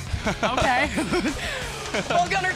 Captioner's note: laughter